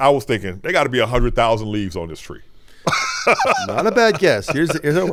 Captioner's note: laughing